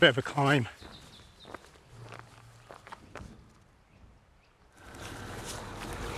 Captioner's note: birds chirping